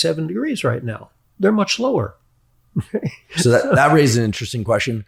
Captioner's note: chuckles